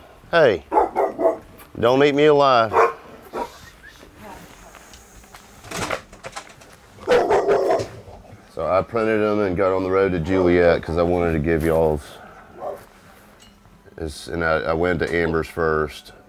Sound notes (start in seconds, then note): 2.6 dogs barking; 5.6 door closing; 7.0 dogs barking